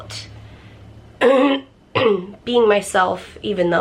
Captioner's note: clears throat